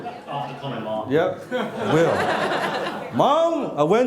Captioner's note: laughing